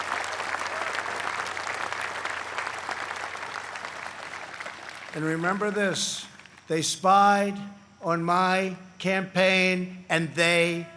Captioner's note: applause